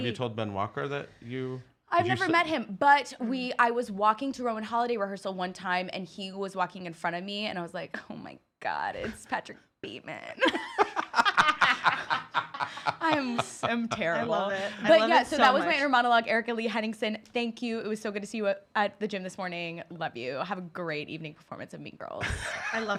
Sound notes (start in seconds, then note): 10.4 laugh